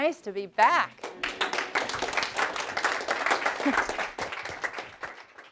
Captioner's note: class applauds